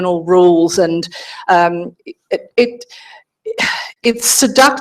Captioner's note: sighs